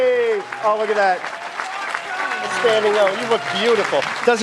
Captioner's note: applause